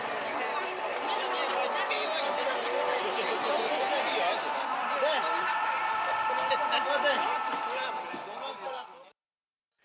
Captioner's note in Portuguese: Burburinho de feira